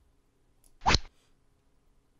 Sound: rod sound

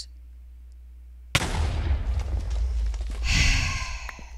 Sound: tnt explodes; sigh

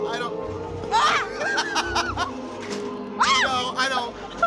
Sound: laughs

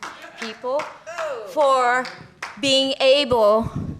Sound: applause

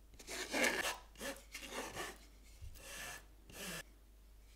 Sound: spatula scratching

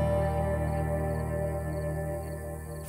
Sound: crickets chirping

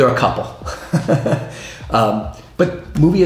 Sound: laughs

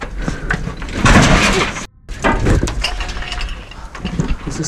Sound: clattering

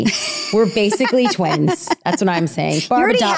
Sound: laughing

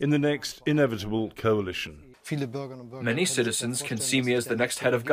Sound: through translator

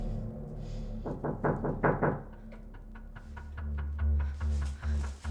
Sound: knocking on door

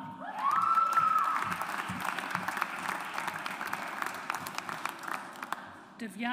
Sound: audience applauds

